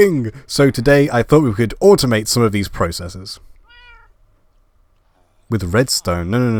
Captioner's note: meow